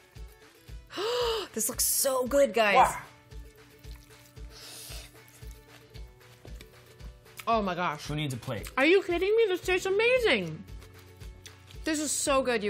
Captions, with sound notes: [gasps] This looks so good, guys. [slurping] Oh my gosh. - Who needs a plate? Are you kidding me? This tastes amazing. This is so good, you guys.